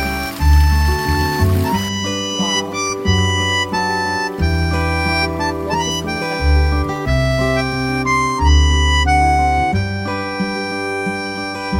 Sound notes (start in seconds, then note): 3.3 applause for the person who sleeps soundly in the tent👏